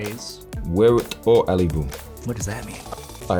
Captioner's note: speaking na'vi